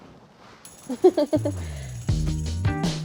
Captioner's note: Claire chuckles; soft bright music